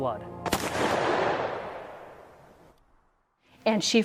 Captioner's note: gun fires